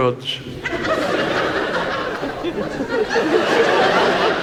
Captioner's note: audience laughs